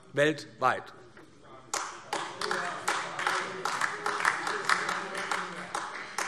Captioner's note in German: Beifall AfD